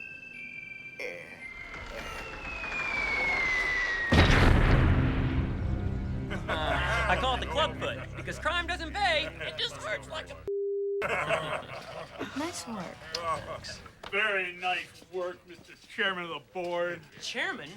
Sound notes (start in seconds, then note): 1.4 crash